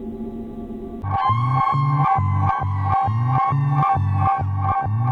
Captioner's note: screaming